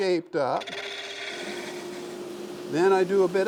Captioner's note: machine whirring